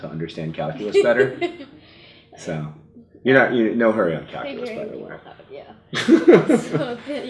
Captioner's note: laughs